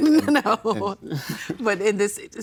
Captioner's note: laughing